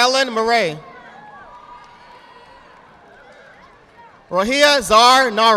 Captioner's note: audience applauding